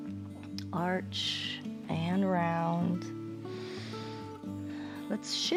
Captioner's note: inhales